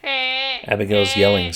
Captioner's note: yells